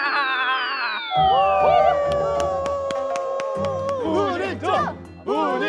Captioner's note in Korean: 환호하고 있는 고려인들